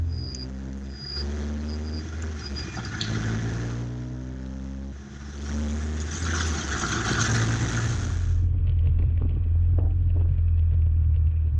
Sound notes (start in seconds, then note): 0.2 engine noise and indicators; 2.5 engine going through the gears